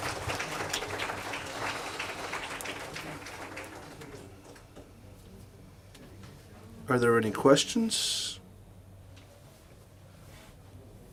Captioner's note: applause